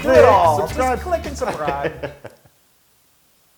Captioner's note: laugh